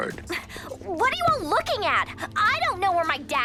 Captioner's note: Elda groans